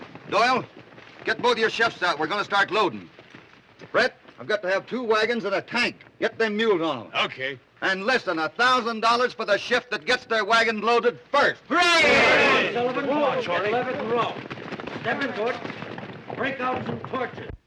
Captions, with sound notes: Doyle, get both your shifts out. We're gonna start loading. Brett, I've got to have two wagons and a tank. - Get them mules on 'em. - Okay. And listen, a thousand dollars for the shift that gets their wagon loaded first. [all cheering] [chattering] Bring down some torches.